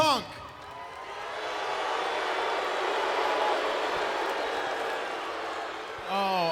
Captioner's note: crowd cheering